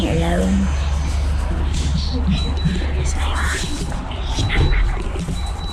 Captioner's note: whispering